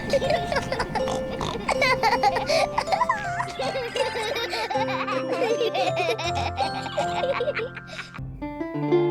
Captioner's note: both giggle; oinks